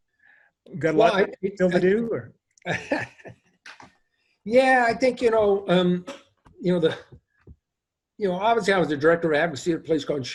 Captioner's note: laughs